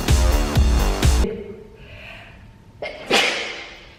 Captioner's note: sneezes